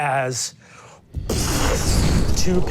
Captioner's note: whooshing